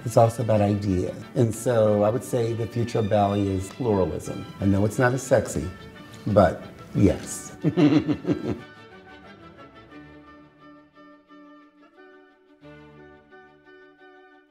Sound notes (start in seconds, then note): 7.5 laughs; 9.0 classical music